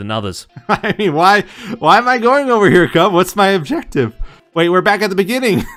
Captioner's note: laughs